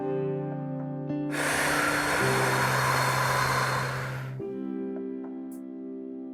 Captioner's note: exhale